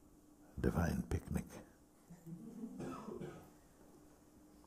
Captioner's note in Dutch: gelach